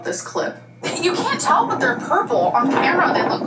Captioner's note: wind whooshing